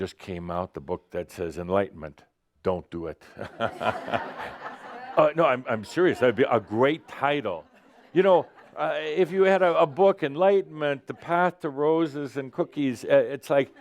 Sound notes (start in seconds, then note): 4.1 laughter